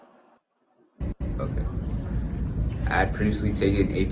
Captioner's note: air whooshing